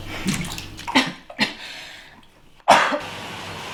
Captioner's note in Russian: Начинает кашлять